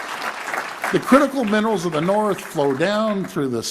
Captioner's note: applause